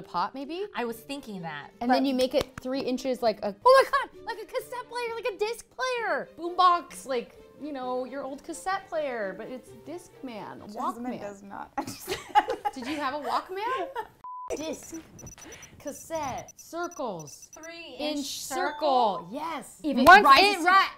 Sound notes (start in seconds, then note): 11.8 laughs; 14.2 beep; 19.0 ding